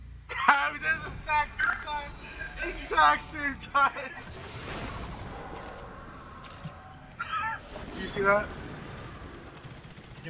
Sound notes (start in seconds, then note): 3.5 laughing; 7.1 chuckle